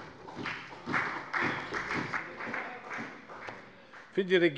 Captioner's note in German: Beifall bei der FDP